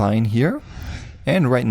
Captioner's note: air whooshing